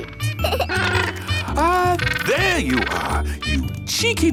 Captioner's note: giggles; honking